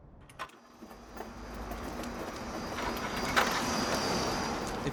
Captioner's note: car rattling